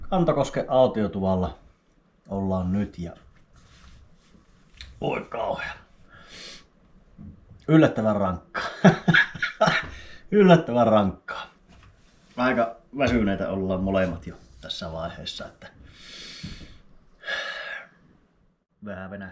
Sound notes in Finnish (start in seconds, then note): 8.6 naurua